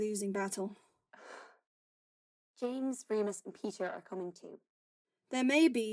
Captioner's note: Marlene sighs